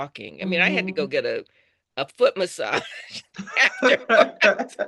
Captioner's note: laughs